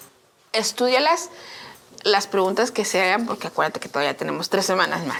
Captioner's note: speaking in Spanish